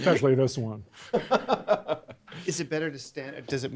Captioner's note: laughs